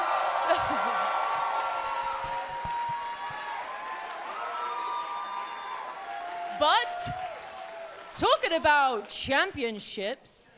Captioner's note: cheers and applause